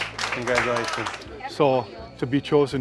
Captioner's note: audience applauding